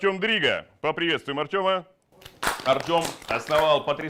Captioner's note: applause